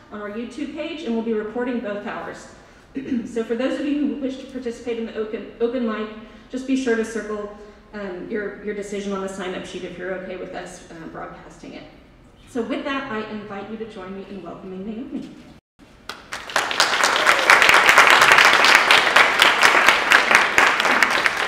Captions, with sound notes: on our YouTube page, and we'll be recording both hours. So for those of you who wish to participate in the open mic, just be sure to circle your decision on the signup sheet if you're okay with us broadcasting it. So with that, I invite you to join me in welcoming Naomi. (audience applauding)